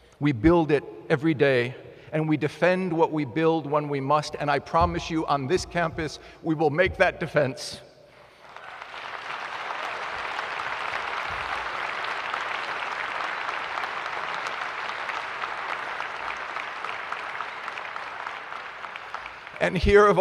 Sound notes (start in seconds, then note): 13.5 applause